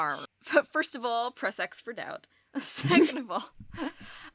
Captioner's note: chuckles